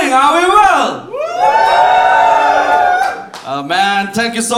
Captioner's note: cheering